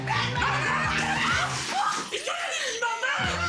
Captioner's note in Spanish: Gritos; Estruendo